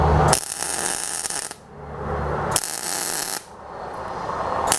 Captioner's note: torch buzzing